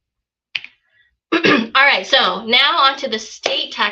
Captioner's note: clears throat